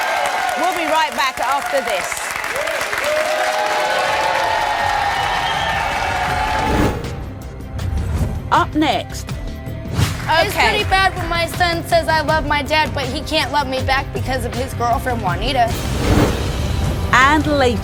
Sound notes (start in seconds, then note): 3.1 audience cheering